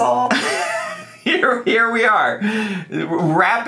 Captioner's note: laughs